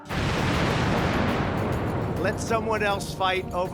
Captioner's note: bomb explodes